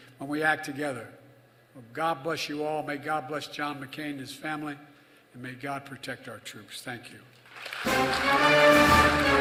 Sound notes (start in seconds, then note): 7.4 applause